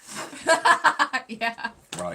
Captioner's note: laughing